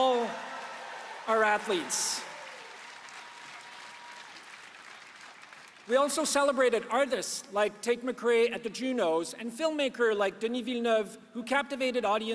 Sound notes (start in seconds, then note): 5.8 applause